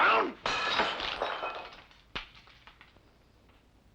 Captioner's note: glass shatters